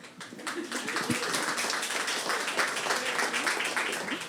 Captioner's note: audience applauding